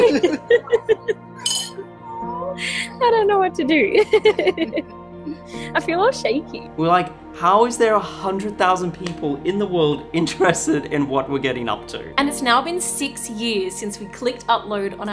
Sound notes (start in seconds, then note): 0.0 laughs softly; 3.9 chuckles